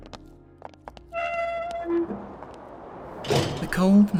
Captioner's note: door Opening and Shutting